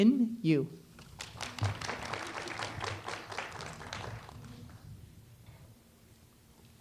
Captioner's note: applause